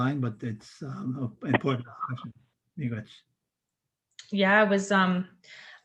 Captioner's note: foreign language